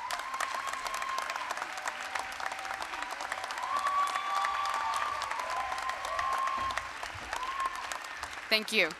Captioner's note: applause, cheering